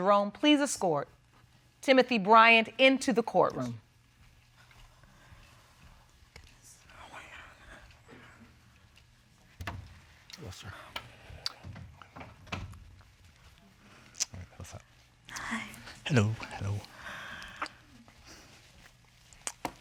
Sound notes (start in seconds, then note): 17.2 sighs